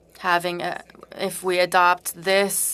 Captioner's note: speaking french